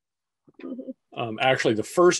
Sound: chuckles

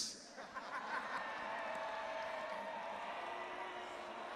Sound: audience laughing

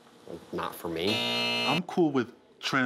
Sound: alarm buzzing

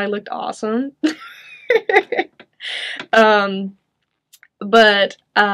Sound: chuckles

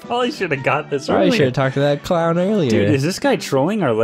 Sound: none

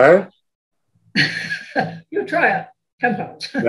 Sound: laughs

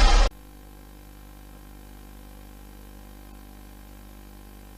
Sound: VHS static

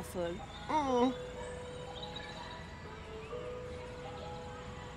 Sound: Mr. Chip whines

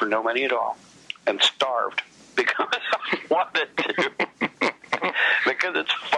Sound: laughs

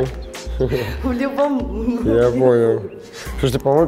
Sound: laughing

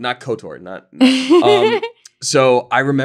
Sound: laughing

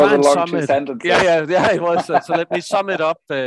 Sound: chuckling

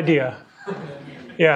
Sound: laughter

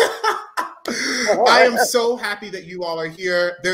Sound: giggles; laughing; laughs

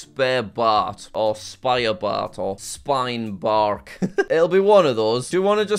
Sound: laughs

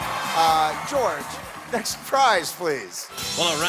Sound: cheers and applause

